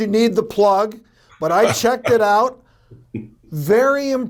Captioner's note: Tony laughing